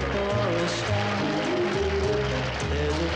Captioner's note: audience applauds